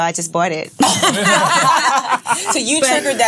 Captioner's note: laughs